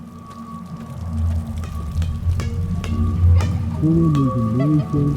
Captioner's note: rubbery bouncing